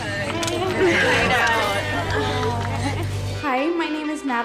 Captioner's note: cheerleaders muttering